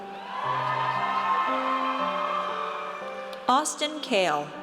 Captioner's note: audience cheers